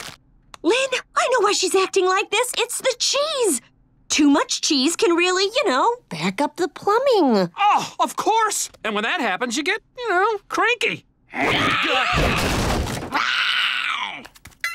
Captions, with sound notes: Lynn, I know why she's acting like this. It's the cheese. Too much cheese can really, you know, back up the plumbing. Ah, of course. And when that happens, you get, you know, cranky. [grunting] [growling]